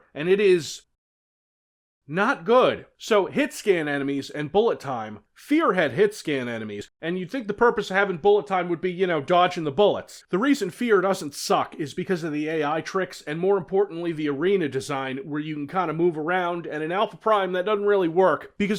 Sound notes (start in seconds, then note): none